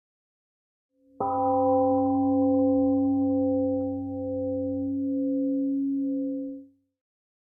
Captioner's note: temple gong rings and fades